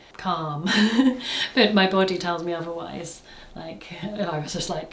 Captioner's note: laughs